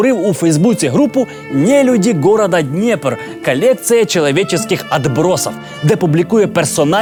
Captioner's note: spoken in Russian